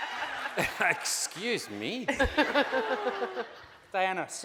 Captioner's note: laughing